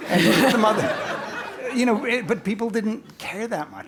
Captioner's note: laugh